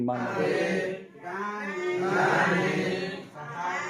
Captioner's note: people repeating Marma lesson in classroom